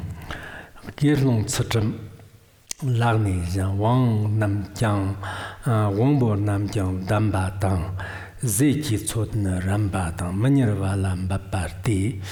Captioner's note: giving oral transmission in Tibetan